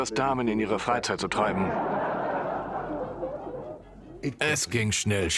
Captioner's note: audience laughs